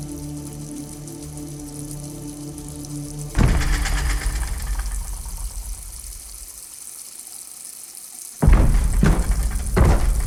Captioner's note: heavy stomping/banging